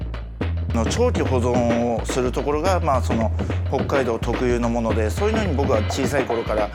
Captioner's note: chef speaking in foreign language